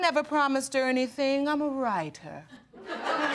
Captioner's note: audience laughing